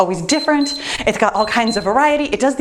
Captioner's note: timer beeps